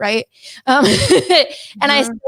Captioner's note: laughing